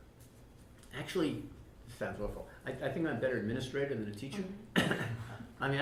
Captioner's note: laughter